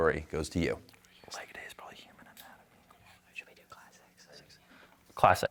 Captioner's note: team whispering